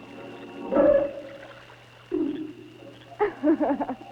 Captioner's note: splashing; laughing